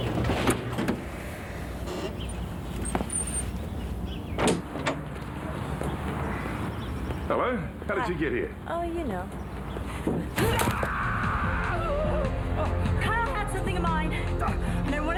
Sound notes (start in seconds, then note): 10.4 Phil screams